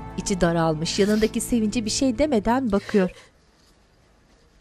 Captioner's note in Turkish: Ağlama sesi